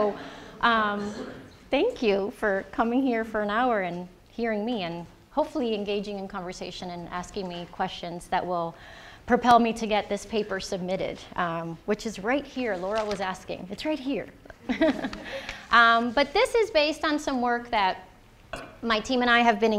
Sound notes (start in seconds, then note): 14.5 chuckling; 14.6 audience chuckling